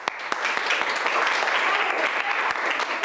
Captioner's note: children yell; clapping